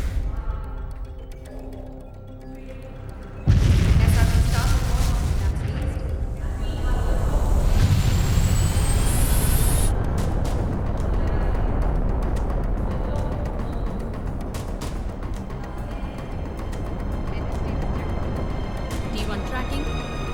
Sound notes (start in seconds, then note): 8.1 rocket launching